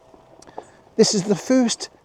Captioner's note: laughs